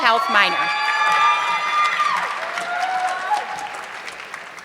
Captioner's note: audience clapping